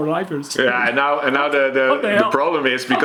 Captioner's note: laughs